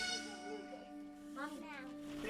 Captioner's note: chatter